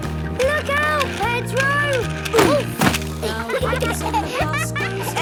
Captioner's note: laughter